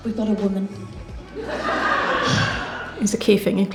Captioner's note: audience Laughs